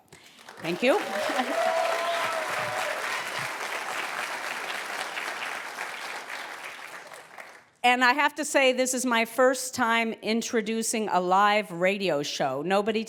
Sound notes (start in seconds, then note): 0.0 applause; 0.9 laugh